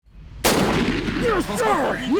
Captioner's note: gun blasts